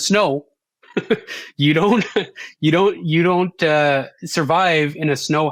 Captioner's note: laughs